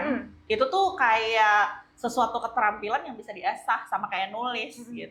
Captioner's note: clears throat